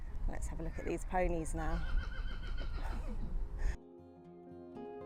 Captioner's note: horses whinnying